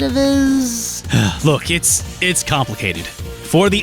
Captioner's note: sigh